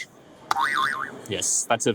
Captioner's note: spring bouncing